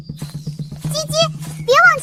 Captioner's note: chirp chirp